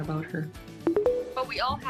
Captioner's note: tones